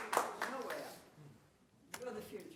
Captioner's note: applause